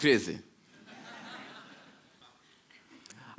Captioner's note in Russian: Смех